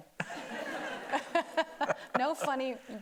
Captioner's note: everybody laughing